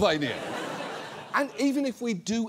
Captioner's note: audience laughs